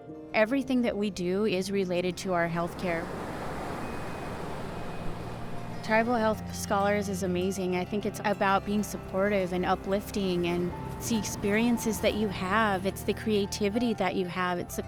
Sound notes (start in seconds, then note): 2.0 waves crashing; 3.2 warm music